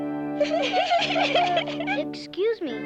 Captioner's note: giggling